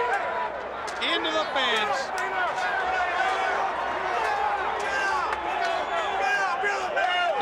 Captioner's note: crowd chattering